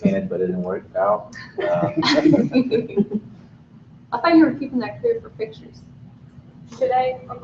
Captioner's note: laughing